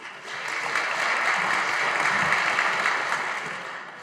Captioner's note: audience applauding